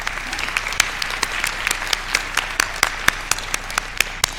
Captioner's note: applause